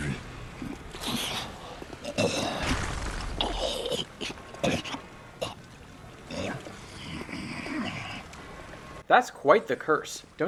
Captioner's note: throaty cough